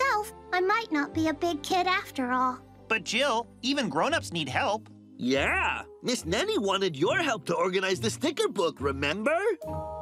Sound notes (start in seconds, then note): none